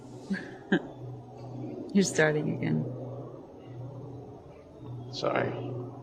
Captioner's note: laughs